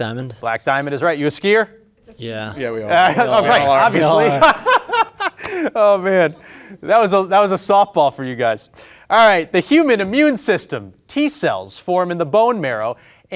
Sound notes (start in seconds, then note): 2.8 group laughing; 2.8 laughing